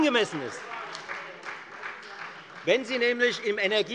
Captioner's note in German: Beifall Freie Demokraten - Fortgesetzte Zurufe CDU